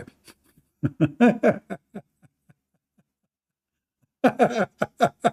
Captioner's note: Ketawa